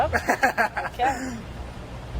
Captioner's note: laughing